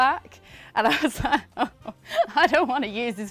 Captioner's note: laughs